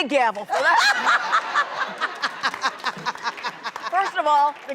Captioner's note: Vivica laughs